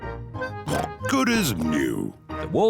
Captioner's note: oinks